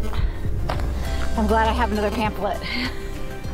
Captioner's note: mosquitoes